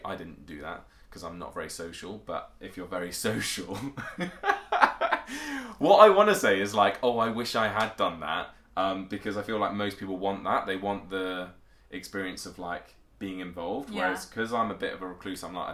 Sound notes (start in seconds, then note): 4.1 laughs